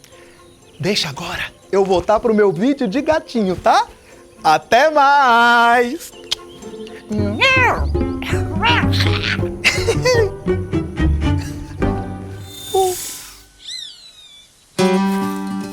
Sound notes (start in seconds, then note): 7.2 meowing; 8.2 Chico laughs